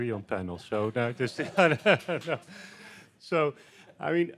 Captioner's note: mumbling and laughing